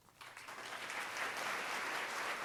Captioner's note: crowd Clapping